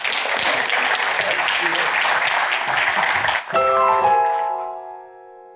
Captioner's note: applause